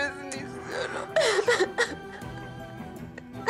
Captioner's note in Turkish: Ağlıyor